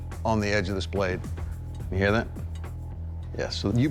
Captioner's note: flicking blade